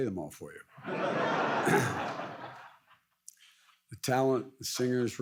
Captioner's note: audience laughs